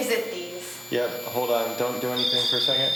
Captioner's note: voiceover